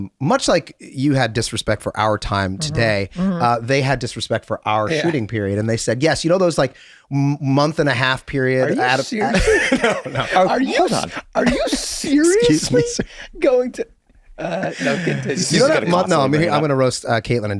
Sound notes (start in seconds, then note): 8.6 laughs; 8.6 group laughs